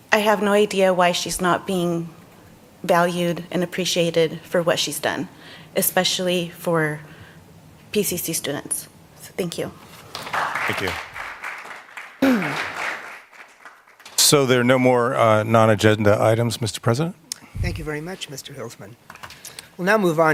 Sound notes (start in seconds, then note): 13.7 applause